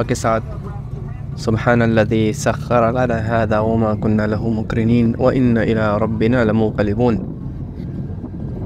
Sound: Arabic

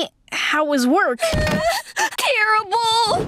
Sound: whimpering

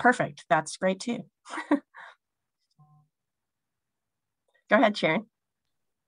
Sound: laughs

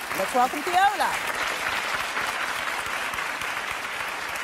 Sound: audience applause

